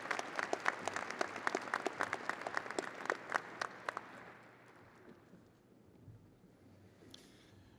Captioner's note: audience applauding